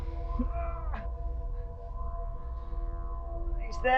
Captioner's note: Sam groans